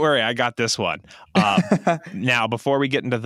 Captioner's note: laughs